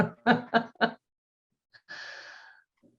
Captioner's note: laughter